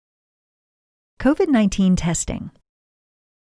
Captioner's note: voiceover